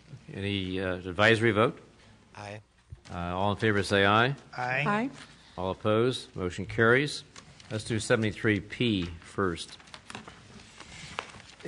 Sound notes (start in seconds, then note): none